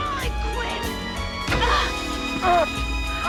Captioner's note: shouting; grunts; screaming